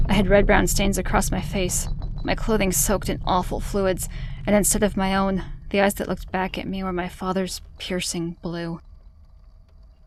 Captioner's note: rumble fades out